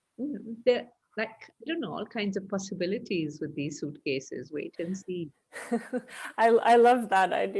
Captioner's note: laughs